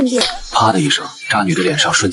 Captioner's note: slap!